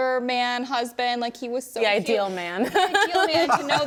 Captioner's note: hosts laughing